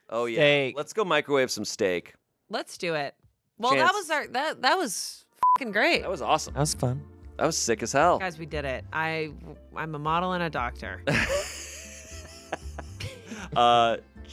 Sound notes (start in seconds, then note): 5.4 beep; 11.1 laughs